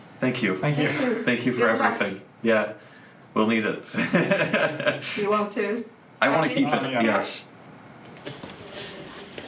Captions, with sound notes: - Thank you. - Thank you. - Thank you. - Thank you for everything. Yeah, we'll need it. [laughs] - Do you want to? - I want to keep it, yes.